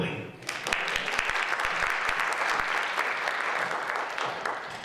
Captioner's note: audience applauds